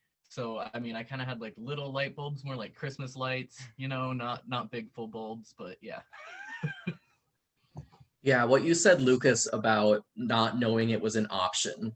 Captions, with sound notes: So, I had, like, little light bulbs, more like Christmas lights, you know, not not big full bulbs. But yeah, [laughs] Yeah, what you said, Lucas, about not knowing it was an option